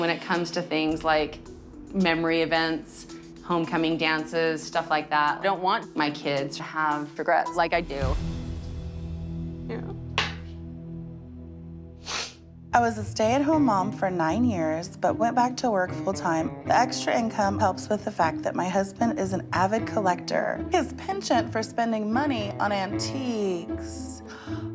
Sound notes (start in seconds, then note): 12.0 sniffles